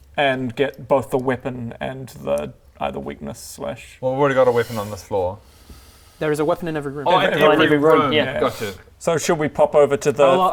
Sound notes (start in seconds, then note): none